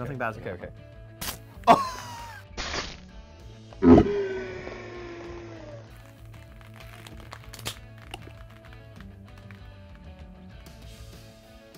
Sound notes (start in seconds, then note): 2.6 can spraying; 6.1 upbeat music